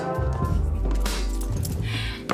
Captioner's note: laughing